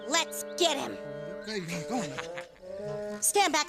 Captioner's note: cops snickering